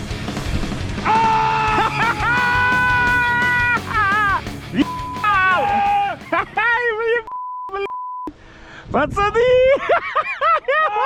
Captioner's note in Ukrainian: Несамовито кричить і сміється